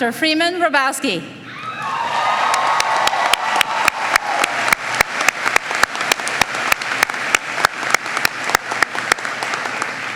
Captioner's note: applause